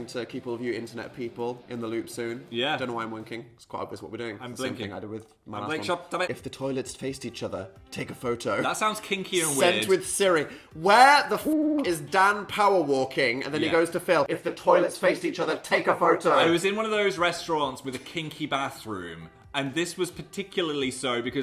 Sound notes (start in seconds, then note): 11.4 hoot